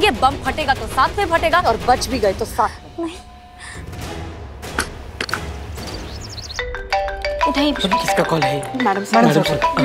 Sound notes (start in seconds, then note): 6.6 mobile phone ringing